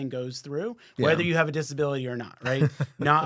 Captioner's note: laughs